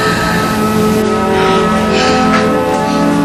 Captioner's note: Marita breathes deeply